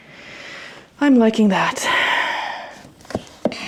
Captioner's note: exhales